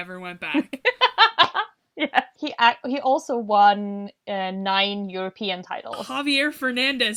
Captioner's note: laughs